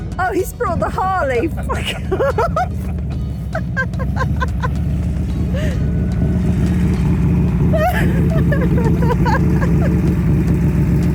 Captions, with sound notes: Oh, he's brought the Harley! Fuck off. [laughter] [loud engine noise] [laughter]